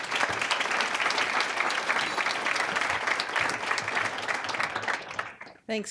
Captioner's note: applause